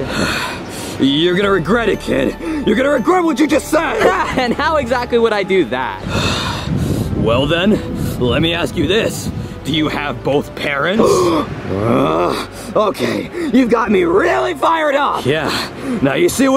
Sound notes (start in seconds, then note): 3.7 laughs; 11.0 grunts